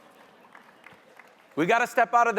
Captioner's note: audience members applauding